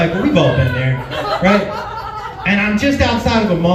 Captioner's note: laughs